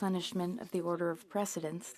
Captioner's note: speaking in French